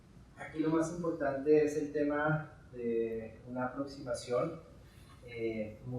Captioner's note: speaking in Spanish